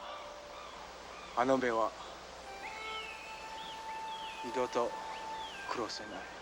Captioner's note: speaking foreign language